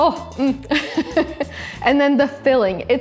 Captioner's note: chuckles